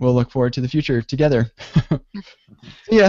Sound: laughter

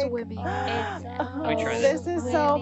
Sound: woman gasping

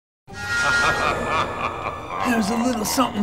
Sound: ominous music; maniacal laughter

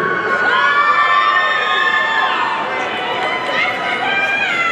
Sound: audience cheering

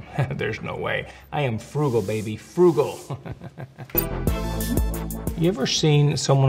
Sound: laughs; laughs

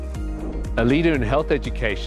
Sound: air whooshing

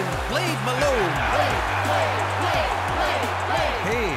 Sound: crowd

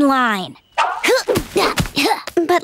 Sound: grunting

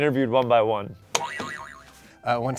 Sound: boing

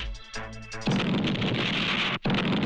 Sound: explosion

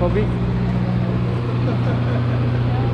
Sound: man laughing

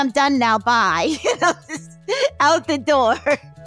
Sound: laughing

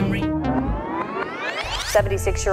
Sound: tape whirring

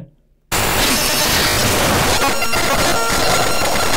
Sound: virus blaring

